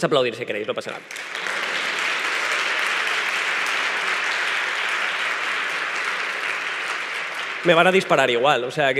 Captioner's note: applause